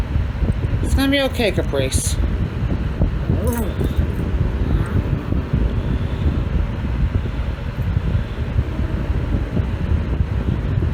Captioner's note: Ella barks and growls; Caprice growls